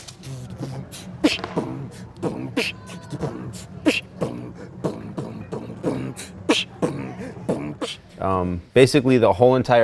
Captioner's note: beat boxing